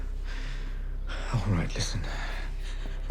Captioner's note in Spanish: suspiros